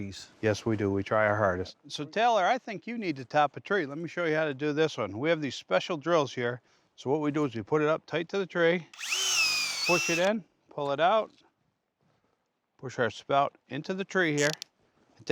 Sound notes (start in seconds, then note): 8.9 drilling sound